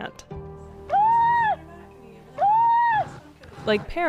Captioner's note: robot seal barking